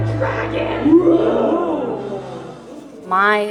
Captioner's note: roar